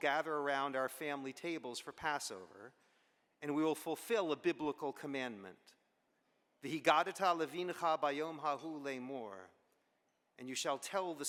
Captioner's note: Hebrew